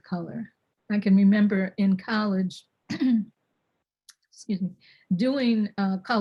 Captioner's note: clears throat